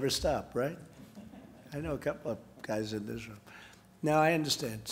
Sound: laughter

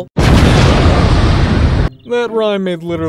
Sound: explosion booms

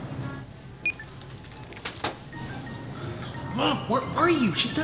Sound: scanner clicks

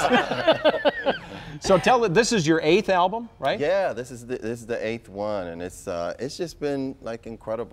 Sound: laughter

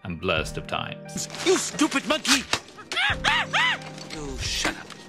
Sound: monkey hollers

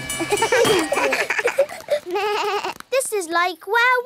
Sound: all laugh

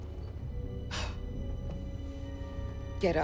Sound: sigh

